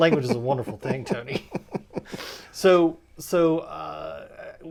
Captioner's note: laughing